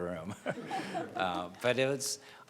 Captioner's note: laughing